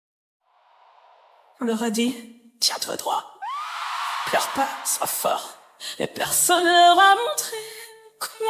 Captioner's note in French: cri